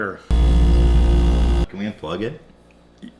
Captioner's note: fridge humming intensifies